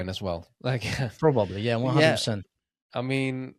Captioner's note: laughs